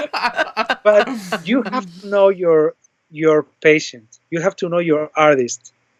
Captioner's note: laughter